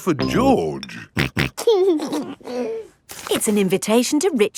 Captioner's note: snorting and giggling